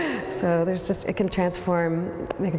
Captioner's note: laughs